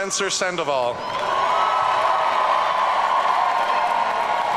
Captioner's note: audience cheering